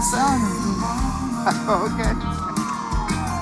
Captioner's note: chuckling